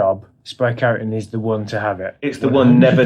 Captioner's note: laughs